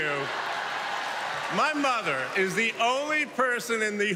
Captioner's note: cheers and applause